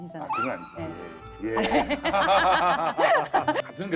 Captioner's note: nothing but laughing awkwardly